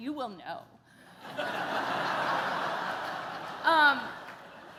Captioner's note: laughter